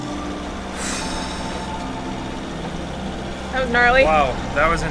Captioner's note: exhales